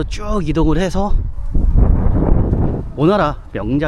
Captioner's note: the wind blows fiercely